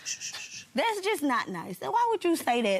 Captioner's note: shushing